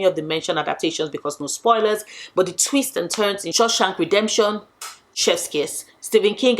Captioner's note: chef’s kiss